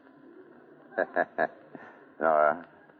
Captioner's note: laughs